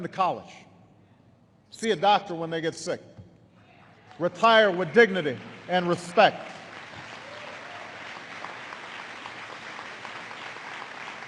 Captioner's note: applause